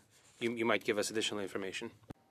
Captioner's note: speaking French